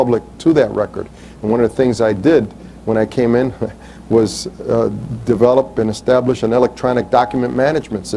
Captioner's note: chuckles